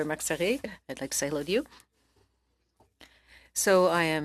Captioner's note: speaking French